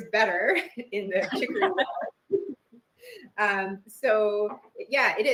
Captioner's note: laughs